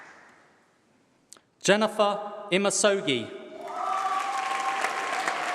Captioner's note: applause